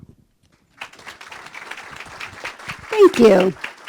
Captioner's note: applause